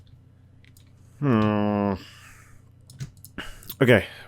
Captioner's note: groans